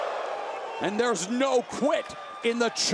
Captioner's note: crowd cheering